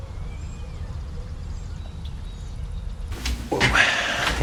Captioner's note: birds chirping